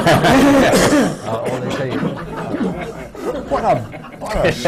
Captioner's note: laughter